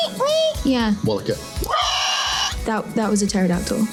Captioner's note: shrieks